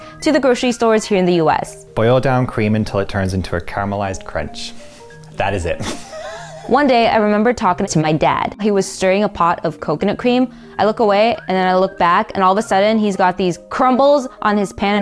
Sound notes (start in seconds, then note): 5.6 laughing